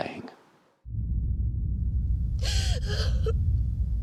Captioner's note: low rumbling; sobs